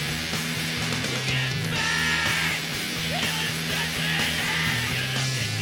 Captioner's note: singer screaming